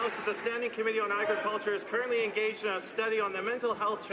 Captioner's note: some Applause